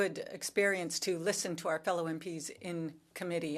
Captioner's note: speaking French